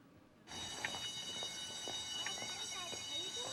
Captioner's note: bell rings